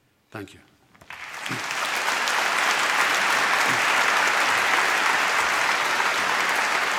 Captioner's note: applause